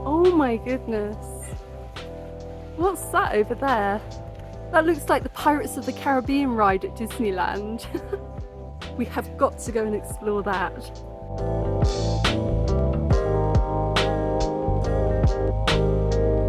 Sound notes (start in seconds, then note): 7.8 laughing; 12.0 chill lofi music